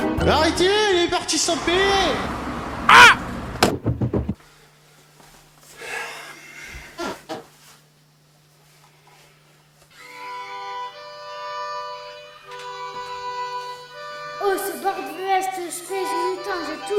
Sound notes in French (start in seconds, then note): 5.8 Soupir; 9.9 Berceuse à l'harmonica